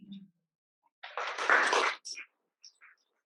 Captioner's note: applause